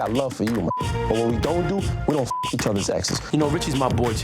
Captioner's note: beep